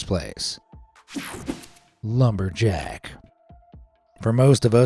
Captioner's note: screen whooshing